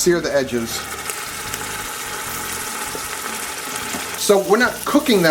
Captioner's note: oil sizzling